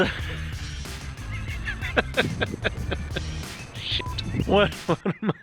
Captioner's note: laughs